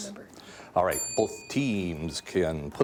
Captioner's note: bell dinging